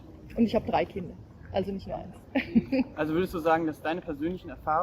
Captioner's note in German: lacht